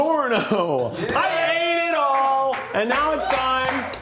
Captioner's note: crew cheers